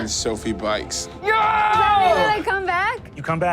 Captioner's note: Pete screams